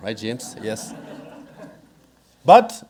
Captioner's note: audience laughing